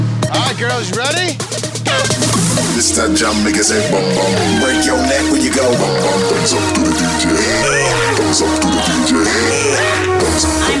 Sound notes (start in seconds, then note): 1.8 air horn blows